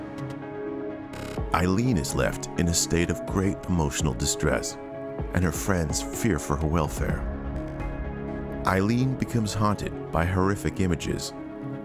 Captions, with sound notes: Eileen becomes haunted by horrific images, things that possibly could've happened to Gordon in the water. (ominous thumping)